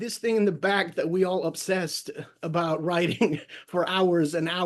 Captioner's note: laughs